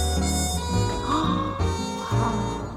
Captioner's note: gasp